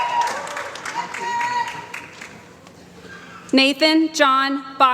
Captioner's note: applause